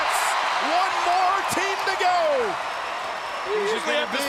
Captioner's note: crowd cheering